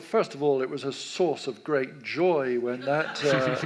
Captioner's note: audience laughs